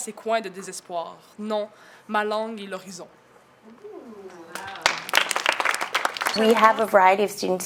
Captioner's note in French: Applaudissements